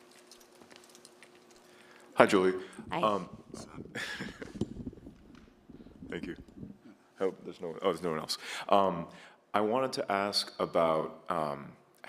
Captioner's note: laughter